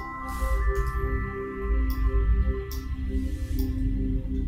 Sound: mouse clicking

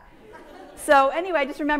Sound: audience laughing

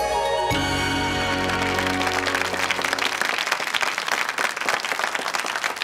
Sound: audience applauds

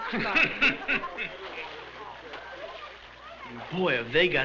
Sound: laughing

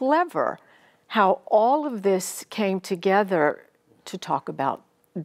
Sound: none

